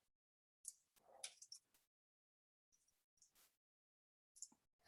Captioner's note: mouse clicking